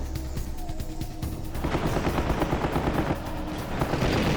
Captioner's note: sounds of battle